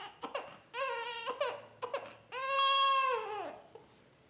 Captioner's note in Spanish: bebé rompe en llanto